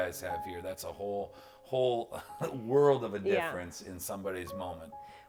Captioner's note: laughs